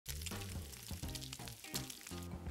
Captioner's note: sizzling sound